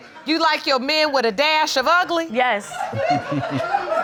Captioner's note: audience laughing